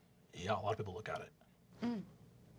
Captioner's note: deep voice